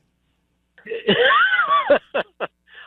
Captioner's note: laughs